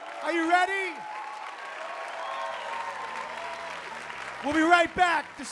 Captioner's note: applause